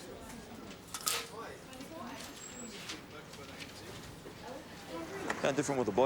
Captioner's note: blind curtain clatters